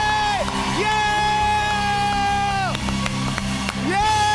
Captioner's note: cheers and applause